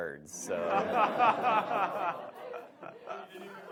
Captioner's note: audience laughs